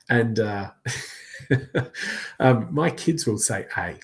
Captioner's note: laughs